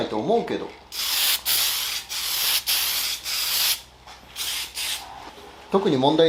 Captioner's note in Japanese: 塗装音